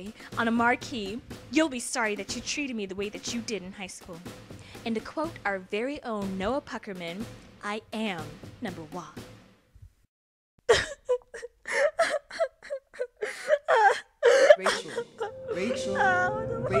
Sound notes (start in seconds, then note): 10.6 Santana sobbing